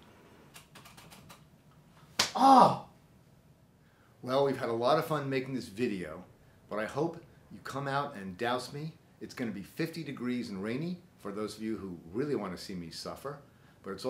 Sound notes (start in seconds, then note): 0.5 computer keys click